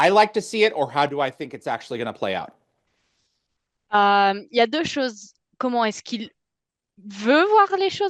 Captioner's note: translating from French